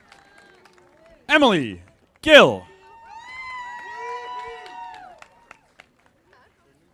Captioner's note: audience applauding